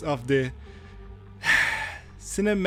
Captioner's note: sigh